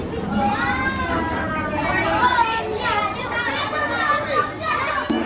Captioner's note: kids making noise and having a good time in the background